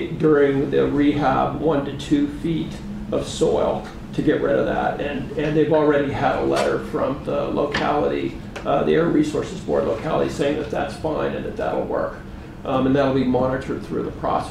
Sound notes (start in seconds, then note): none